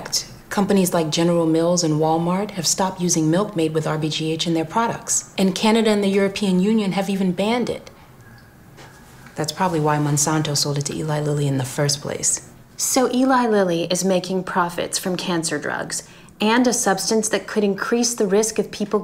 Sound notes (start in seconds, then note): none